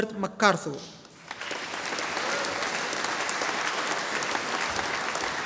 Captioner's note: audience applauding